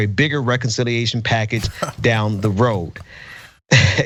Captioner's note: laugh